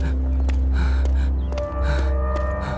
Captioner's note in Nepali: स्याँस्याँ गरेको आवाज